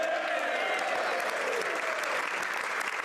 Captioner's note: speaking French